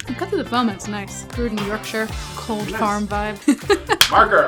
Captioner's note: laughs